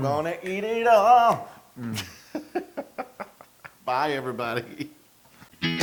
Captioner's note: laugh